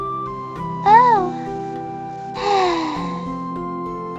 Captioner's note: sigh